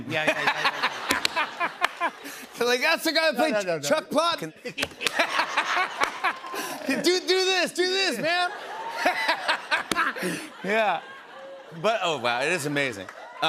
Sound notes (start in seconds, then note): 0.1 laughs; 4.6 laughter; 8.2 laughs